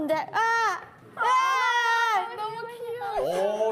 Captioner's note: agh!!